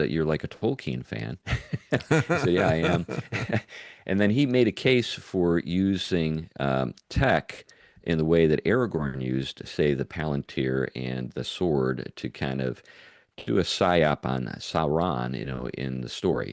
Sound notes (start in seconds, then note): 1.8 laughing